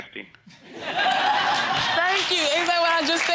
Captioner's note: audience laughing